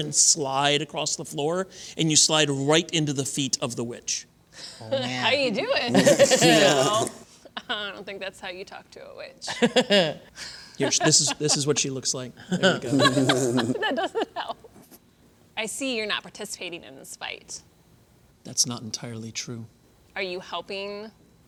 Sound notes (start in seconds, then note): 5.8 laughter; 10.8 laughter